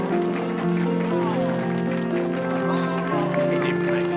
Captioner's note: applause; exclamations of admiration